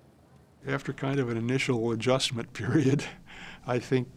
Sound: chuckles

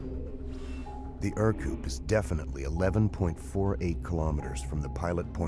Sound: voiceover

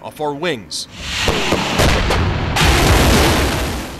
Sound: rockets firing

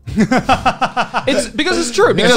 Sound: laughs

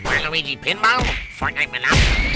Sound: dismissive kick

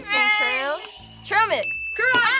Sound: buzzer rings

